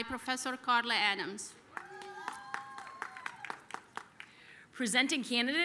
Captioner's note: applause